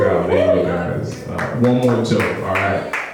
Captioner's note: clapping